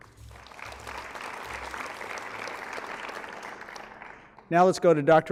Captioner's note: applause